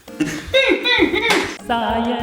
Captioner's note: laughter